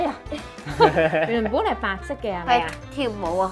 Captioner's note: laughing